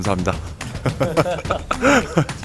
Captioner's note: laughs